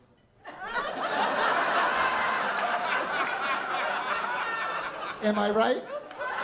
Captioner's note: laughter